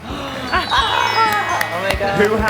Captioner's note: clap sounds